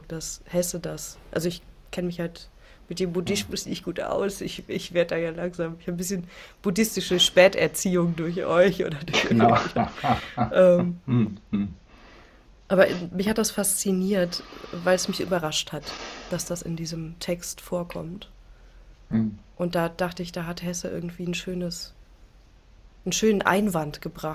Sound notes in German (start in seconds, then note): 9.1 gelächter; 11.0 räuspern